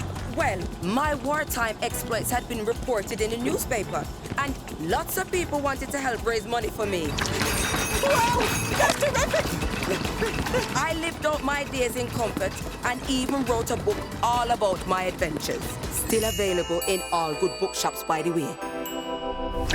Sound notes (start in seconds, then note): 7.0 dishware clinking; 9.6 panting